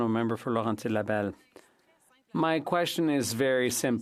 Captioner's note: speaking French